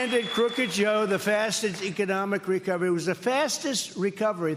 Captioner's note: cheers and applause